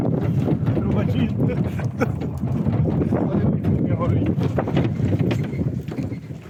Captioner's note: cheerful laughter; cheerful banter